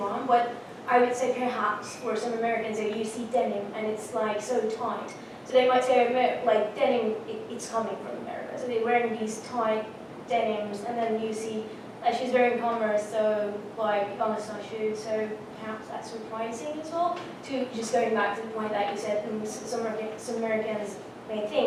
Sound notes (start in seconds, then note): none